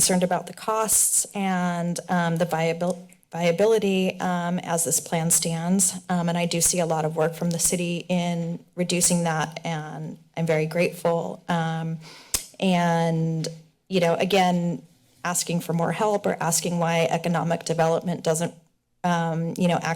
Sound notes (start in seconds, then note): none